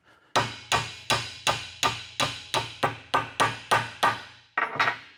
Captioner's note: hammering